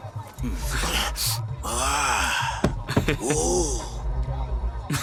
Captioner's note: grunting; laughing